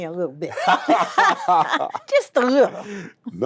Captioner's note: laughs